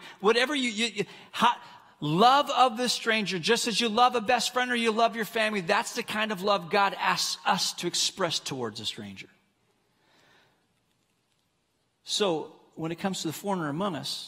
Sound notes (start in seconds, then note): none